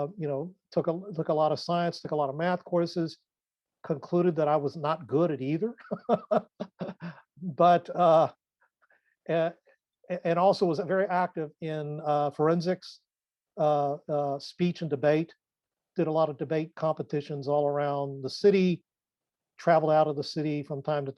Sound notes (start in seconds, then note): 5.8 laughs